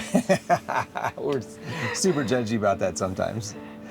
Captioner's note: laughing